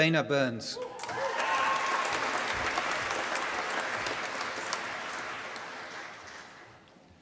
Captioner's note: applause